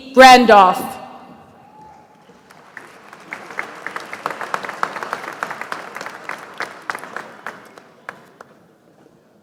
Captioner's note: applause